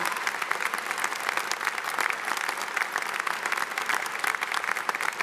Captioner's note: audience applauds